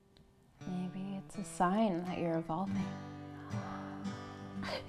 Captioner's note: gasps